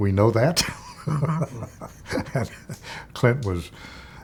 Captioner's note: laughs